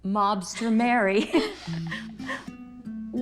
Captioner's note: laughter